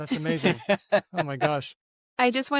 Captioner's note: laughs